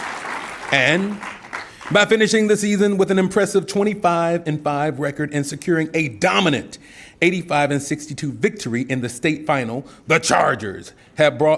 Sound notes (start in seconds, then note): 0.0 applause